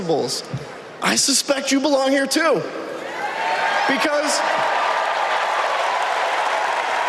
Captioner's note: applause